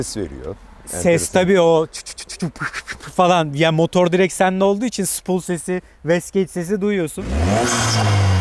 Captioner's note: engine sound